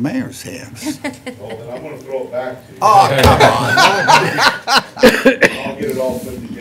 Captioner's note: laughter